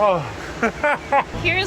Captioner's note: laughing